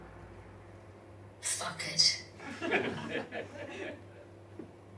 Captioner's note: audience laughs